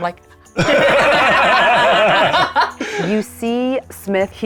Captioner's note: group laughing